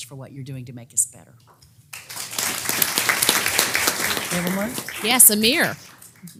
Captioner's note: applause